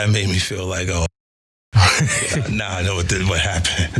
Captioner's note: laugh